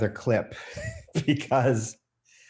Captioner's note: laughs